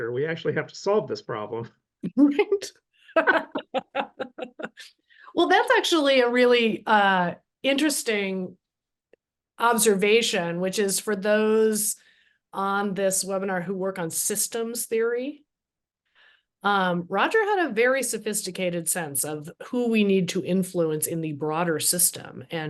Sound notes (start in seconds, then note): 3.1 laughter